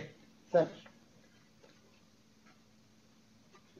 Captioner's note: pause